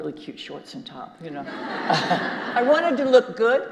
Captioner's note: audience laughing